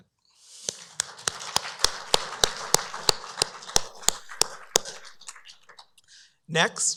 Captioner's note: applause